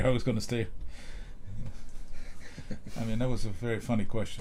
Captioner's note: laughter